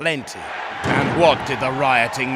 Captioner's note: crowd cheering!